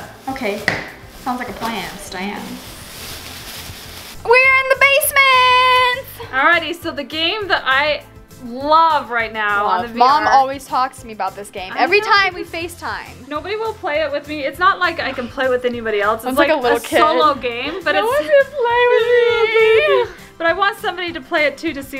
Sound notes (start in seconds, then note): 18.9 fake crying